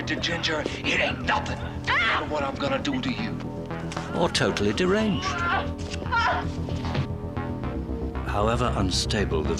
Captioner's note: screaming